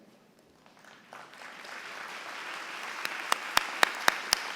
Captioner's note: applause